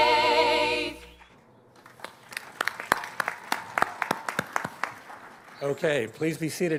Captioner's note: applause